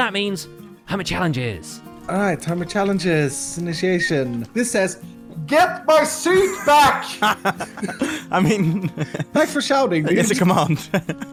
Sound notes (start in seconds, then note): 4.7 shouting; 6.2 laughing; 6.3 chuckling; 10.6 more chuckling